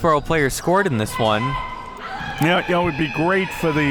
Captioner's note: screams